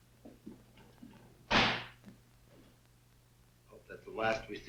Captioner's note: footsteps thudding; door banging